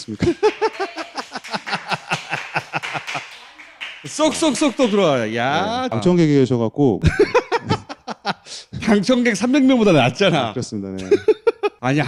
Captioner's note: small talk